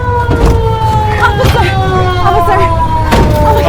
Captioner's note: door clatters; door clatters